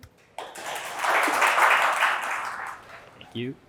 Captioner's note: attendees clapping